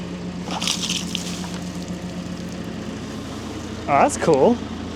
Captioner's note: water splashes